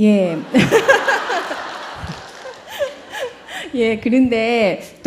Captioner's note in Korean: 질문자와 청중 웃음